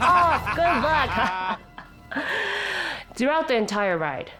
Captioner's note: laughs